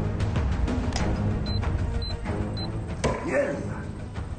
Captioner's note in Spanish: Pitidos